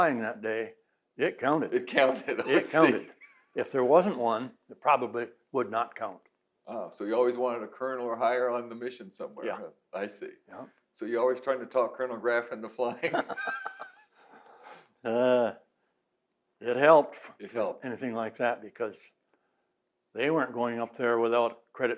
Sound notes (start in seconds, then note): 1.8 laughs; 12.9 both laugh